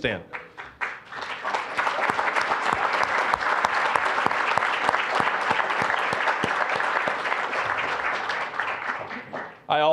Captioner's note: applause